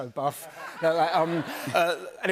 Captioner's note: laughter